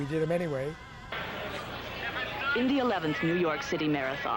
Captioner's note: woman over TV